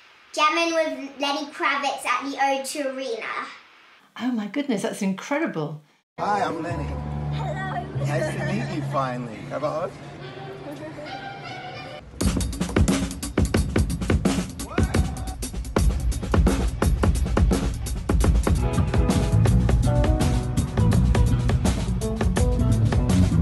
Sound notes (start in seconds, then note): 10.6 giggles